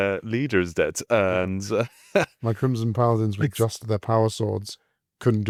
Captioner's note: laughs